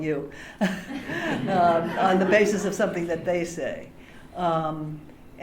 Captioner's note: laughter